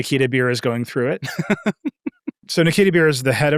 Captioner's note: laughing